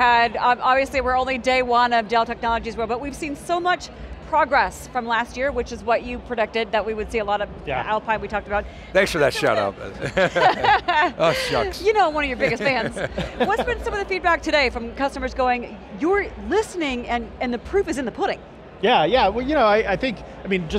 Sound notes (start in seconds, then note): 9.0 laughing